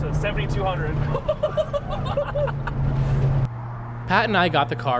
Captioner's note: amused laughing